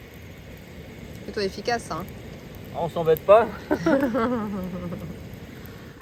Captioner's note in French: rires